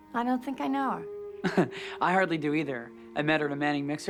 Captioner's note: laughs